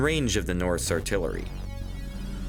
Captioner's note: none